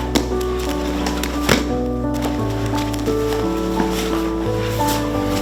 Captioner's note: thudding